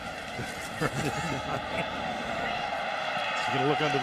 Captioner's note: laughter